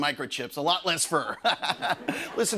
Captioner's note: laughs